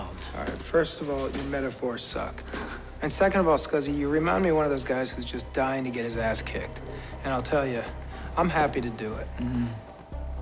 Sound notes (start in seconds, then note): 2.3 chuckles